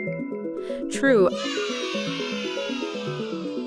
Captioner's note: children cheering; intriguing music